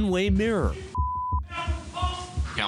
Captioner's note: shouting, cursing